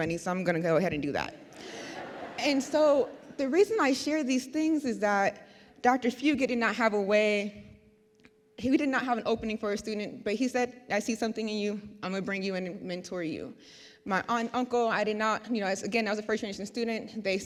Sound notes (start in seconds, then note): 1.5 audience laughs